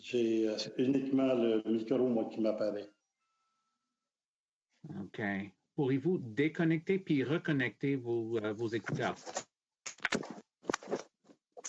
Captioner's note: speaking French